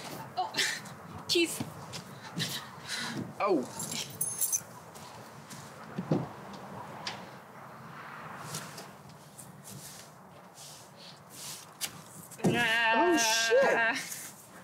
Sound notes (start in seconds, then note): 0.7 chuckles; 2.2 she gasps; 3.7 keys jingle; 8.4 shuffling; 10.6 foot steps